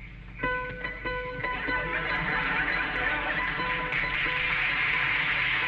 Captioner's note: bell ringing; audience laughing; audience applauding